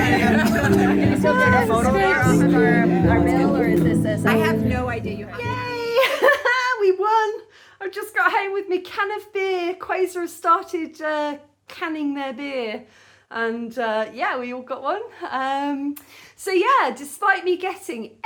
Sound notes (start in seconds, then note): 3.3 loud chatter and background music; 5.1 loud background chatter